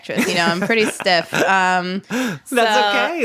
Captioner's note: laughs